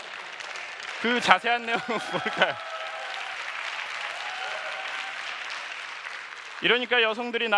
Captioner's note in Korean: 박수